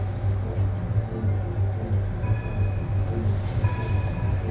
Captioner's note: tram bell tolls